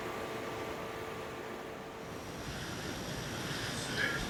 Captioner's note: ominous music; car droning